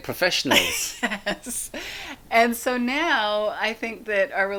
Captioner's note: laughs